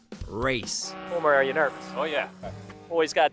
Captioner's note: boat horn